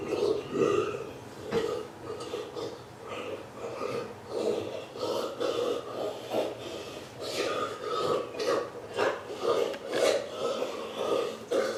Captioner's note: sounds of devouring